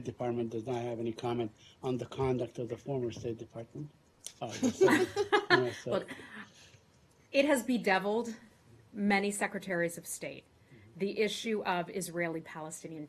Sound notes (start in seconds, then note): 4.5 laughter